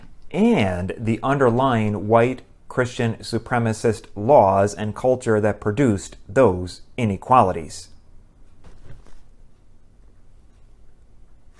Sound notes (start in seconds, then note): none